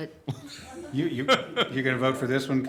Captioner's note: laughter